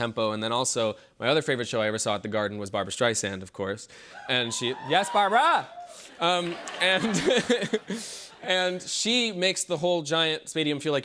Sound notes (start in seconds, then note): 4.2 cheers and applause; 6.9 laughter